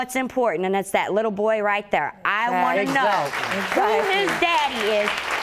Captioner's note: audience applauding